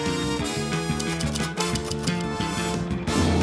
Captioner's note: typewriter clacking; drumming and jingling